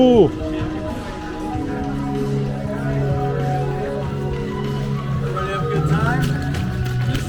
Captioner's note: laughs